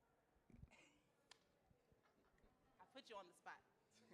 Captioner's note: laughs